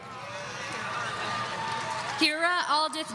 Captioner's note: audience cheering